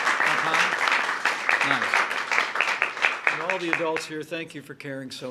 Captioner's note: applause